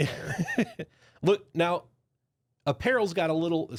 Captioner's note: softly chuckling